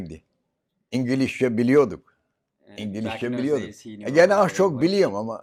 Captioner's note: foreign language